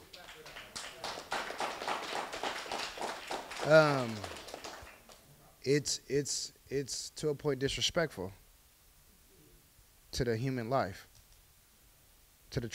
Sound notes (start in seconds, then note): 0.0 applause